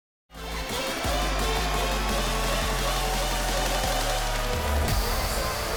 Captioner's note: upbeat music; crowd cheering